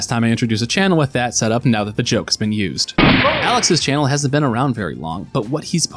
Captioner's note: gunshot